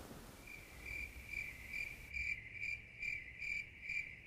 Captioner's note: crickets chirping